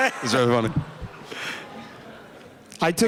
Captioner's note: laughter